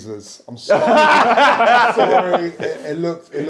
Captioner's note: people laughing